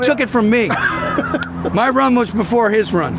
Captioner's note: laughing